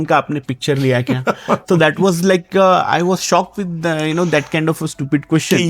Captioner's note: laughs